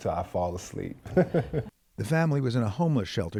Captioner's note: laughter